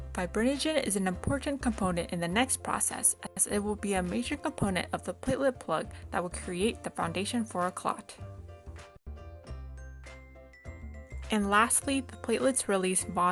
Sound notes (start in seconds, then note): none